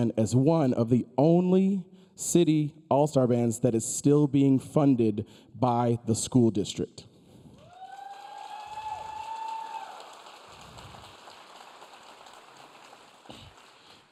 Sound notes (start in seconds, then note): 7.6 audience cheering